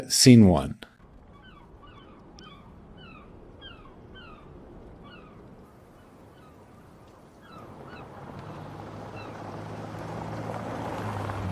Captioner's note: birds Chirping